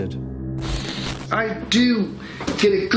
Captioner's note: static crackling